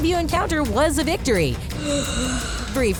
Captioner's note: inhaling